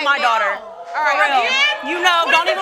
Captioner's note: crowd oohing; all yelling